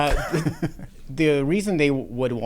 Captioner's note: laughs